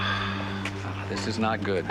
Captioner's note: sighing